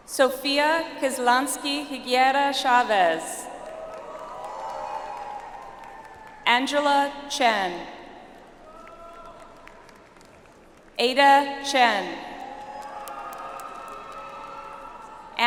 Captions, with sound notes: Sofia Kislansky Regueira Chaves. (audience applauds) Angela Chen. (audience applauds) Ada Chen. (audience applauds)